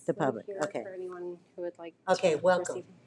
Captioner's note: woman speaks faintly